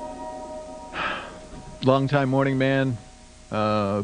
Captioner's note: sighs